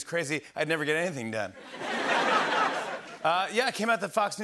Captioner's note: laughter